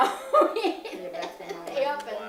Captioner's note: laughing